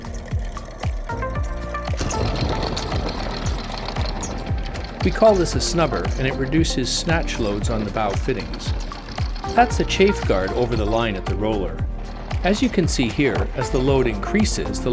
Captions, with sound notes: (chain rattles) We call this a snubber and it reduces snatch loads on the bow fittings. That's the chafe guard over the line at the roller. As you can see here, as the load increases